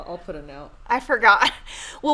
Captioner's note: chuckles